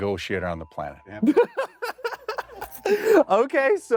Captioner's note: laughs